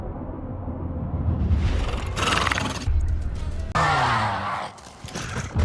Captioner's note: screaming